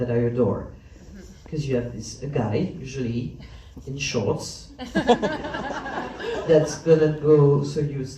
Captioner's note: laughs